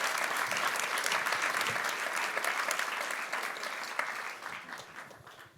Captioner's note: audience applauding